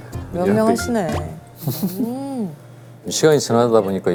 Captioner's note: sip